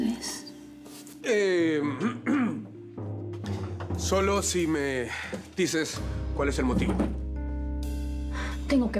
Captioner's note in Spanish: Carraspea